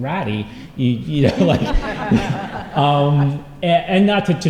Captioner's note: laughter